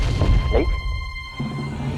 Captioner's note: gulps